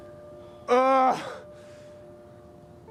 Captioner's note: groans